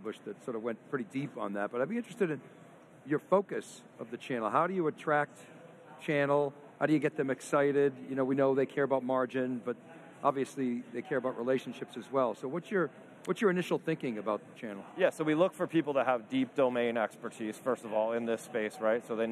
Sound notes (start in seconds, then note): none